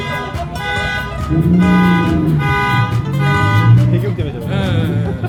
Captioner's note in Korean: 주차된 차가 배기음에 놀람